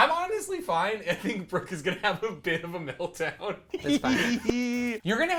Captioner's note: laughs